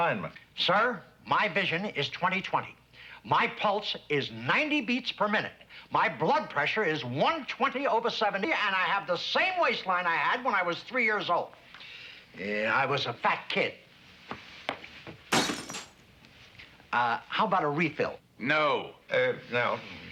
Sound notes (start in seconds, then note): 15.2 glass shatters